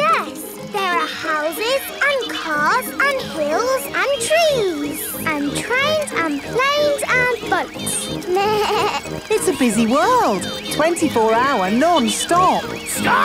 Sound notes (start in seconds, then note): 8.3 bleats